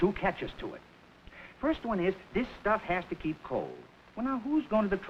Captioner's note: none